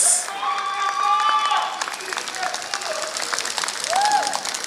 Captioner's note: applause